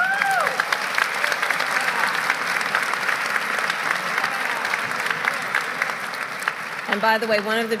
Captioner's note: applause